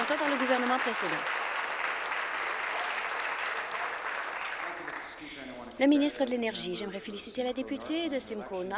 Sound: applause

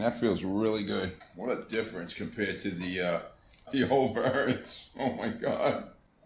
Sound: laughing

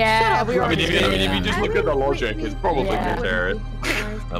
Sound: laughs; voice overlay

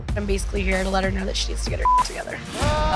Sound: beep; hosts gasp

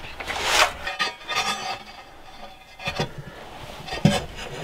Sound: metal clanging

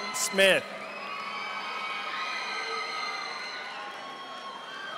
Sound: audience applauding

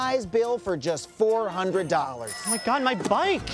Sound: bicycle bell rings

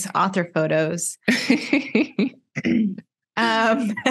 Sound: laughter

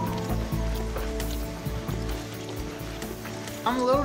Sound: suspense music; footsteps

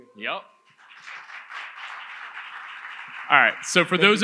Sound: audience applauds

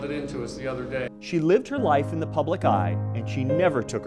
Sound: voiceover

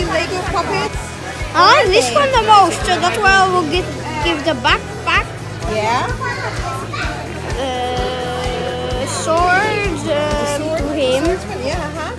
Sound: chatter continues

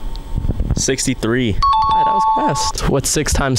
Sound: correct answer chime sound effect

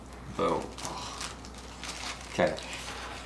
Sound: groans

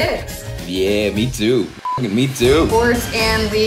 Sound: beep

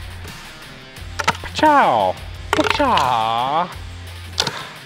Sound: clank

